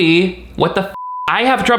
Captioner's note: beep